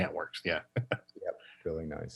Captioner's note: laughs